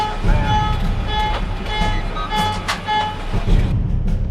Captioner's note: military chatter